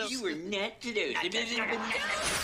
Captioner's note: mockingly